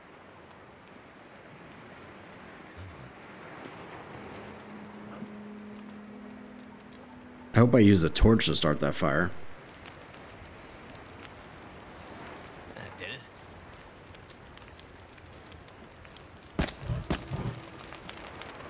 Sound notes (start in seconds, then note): 0.1 embers Burning; 5.3 aurora Hum; 10.3 fire Burning